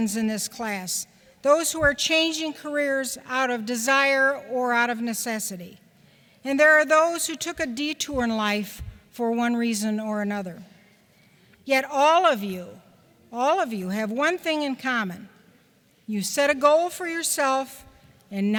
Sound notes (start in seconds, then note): none